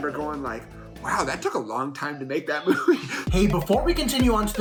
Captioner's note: laughs